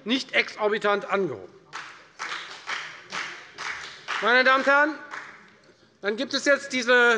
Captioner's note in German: Beifall bei der FDP